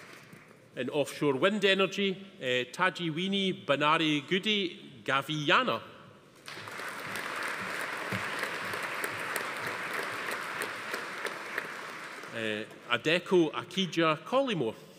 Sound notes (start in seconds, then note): 6.4 audience applauding